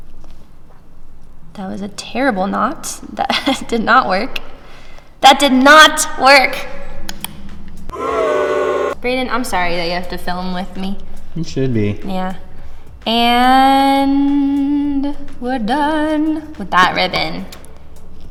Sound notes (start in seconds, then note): 6.8 clicks tongue; 7.9 crowd booing